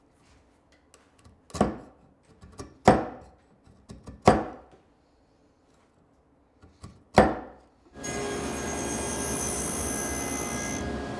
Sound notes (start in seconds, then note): 4.2 tool banging; 7.9 machine whirring